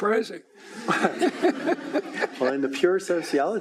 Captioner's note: laughing